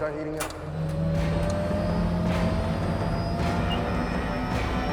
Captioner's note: machines whirring